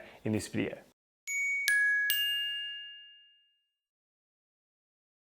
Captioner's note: bell tinkles